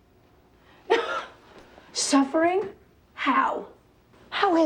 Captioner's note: laughs